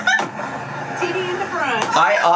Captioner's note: laughs